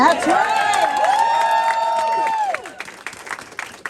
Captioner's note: cheering